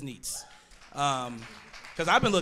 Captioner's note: audience clapping